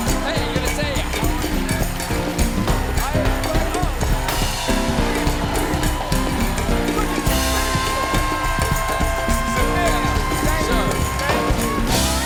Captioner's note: band playing; cheers and applause